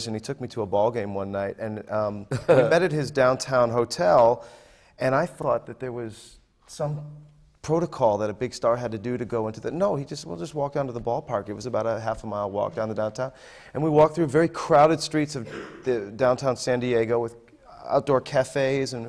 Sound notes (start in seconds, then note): 2.3 laughs